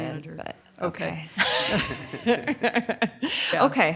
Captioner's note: laughs